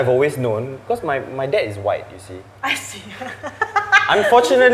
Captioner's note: laughs in mixed blood